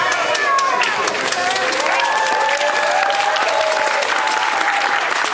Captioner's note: audience applauding